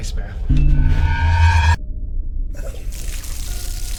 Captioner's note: screeching